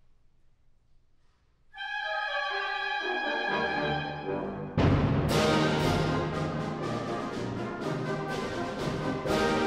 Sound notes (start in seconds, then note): 2.0 fretful trills; 4.8 victorious, upbeat orchestral music